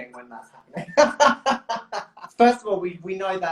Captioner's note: laughs